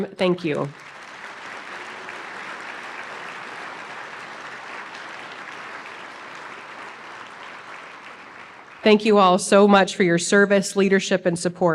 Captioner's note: applause